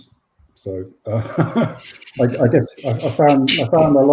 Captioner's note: laughs